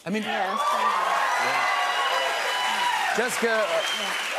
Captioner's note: cheers and applause